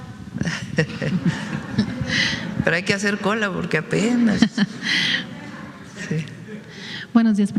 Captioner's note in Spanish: risas